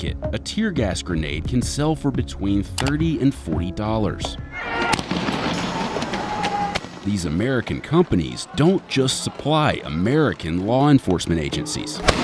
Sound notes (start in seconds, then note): 4.6 siren wailing; 4.6 weapons popping; 12.0 explosion